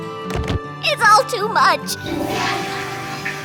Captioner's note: toilet flushes